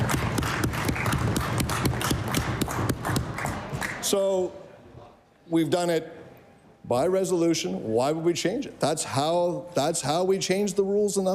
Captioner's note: cheering/Applause